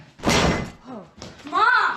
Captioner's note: smacking into refrigerator